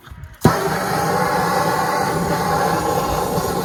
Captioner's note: blowtorch rages